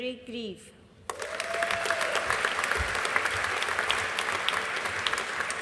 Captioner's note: audience applauding